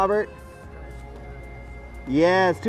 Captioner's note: speaks faintly